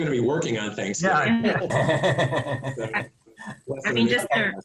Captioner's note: chuckling